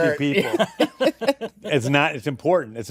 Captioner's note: laughter